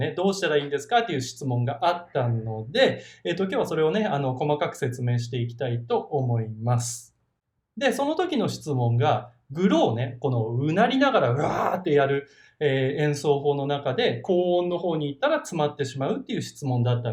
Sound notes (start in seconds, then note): 11.3 Growl